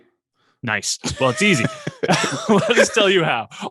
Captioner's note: both laughing